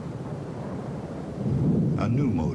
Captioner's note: wind blowing